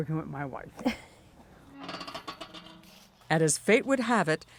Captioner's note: laughs; gate creaks